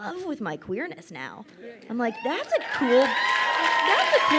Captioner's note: crowd cheers and applauds